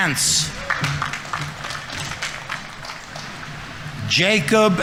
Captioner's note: audience applauding